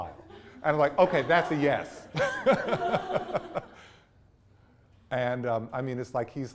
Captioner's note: laughs